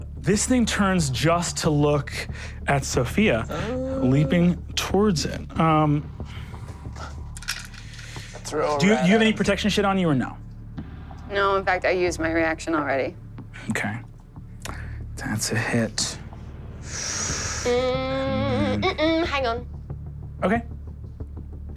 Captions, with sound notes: This thing turns just to look at Sofia, leaping towards him. Do you need protection shit on you or not? - No, in fact, I use my reaction already. - Okay, that's a hit. (hums) - Hang on. - Okay.